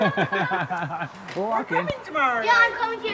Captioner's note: laughing